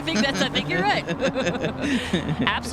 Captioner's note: laughter